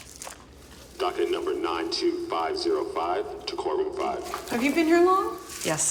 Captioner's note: loudspeaker